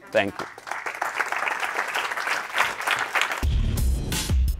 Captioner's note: audience clapping; upbeat music